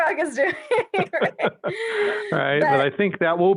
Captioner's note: all laughing